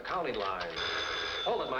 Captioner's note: phone rings